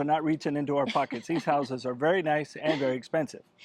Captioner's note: laughing